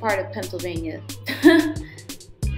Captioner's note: forced laughter